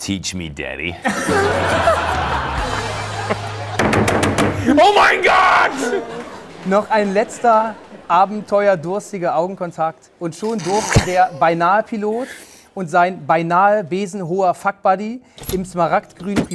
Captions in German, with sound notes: (Lachen) Oh mein Gott!